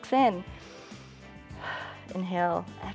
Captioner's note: inhales and exhales